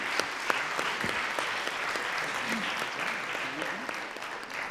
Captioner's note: audience claps